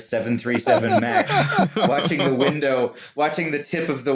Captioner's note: laughter